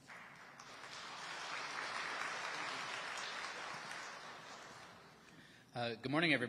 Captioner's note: audience applauding